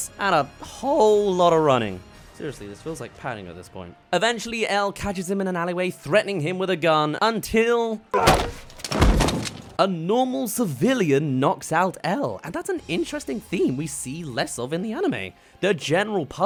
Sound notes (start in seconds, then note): 8.2 whack!